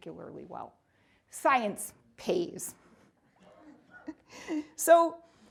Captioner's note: chuckling